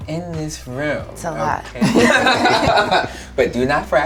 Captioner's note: all laughing